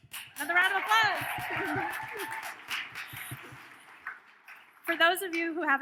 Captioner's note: audience cheers